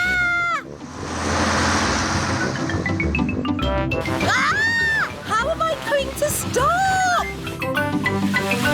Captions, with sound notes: (SHRIEKS) (SHRIEKS) How am I going to stop?